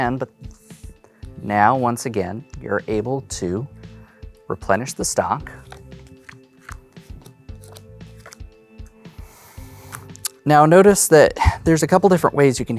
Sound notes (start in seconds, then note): 5.5 cards slapping